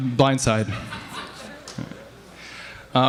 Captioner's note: laughter